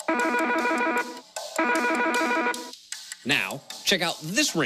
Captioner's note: phone rings cheerfully; phone rings playfully